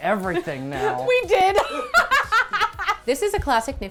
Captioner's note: laughing